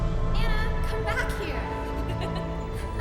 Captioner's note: laughs